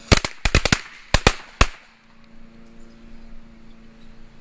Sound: firecrackers exploding

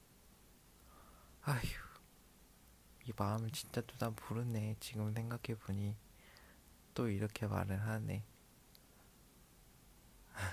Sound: sighs

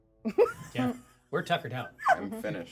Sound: speaker chuckles; speaker laughs

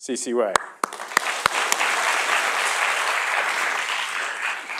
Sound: audience applauding

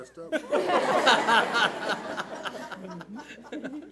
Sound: laughing

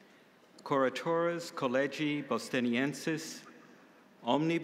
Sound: speaking in Latin

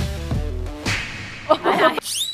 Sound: thud

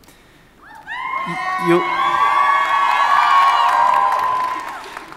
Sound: audience cheering

